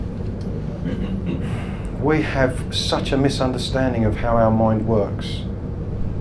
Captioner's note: clears throat